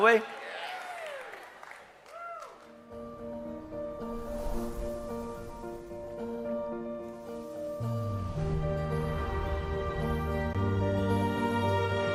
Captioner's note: เสียงปรบมือ